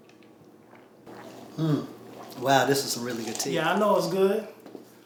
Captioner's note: pouring tea sound